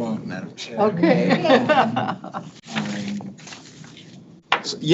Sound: people laugh

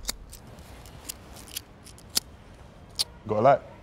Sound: lighter sparks

